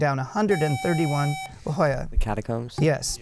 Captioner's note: buzzer